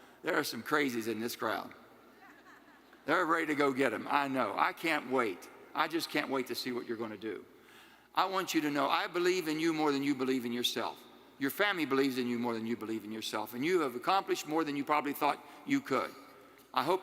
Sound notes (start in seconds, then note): 2.2 attendees laughing